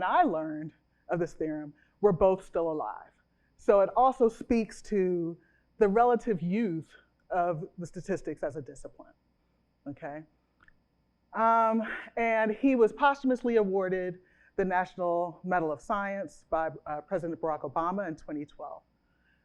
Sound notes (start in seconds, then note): none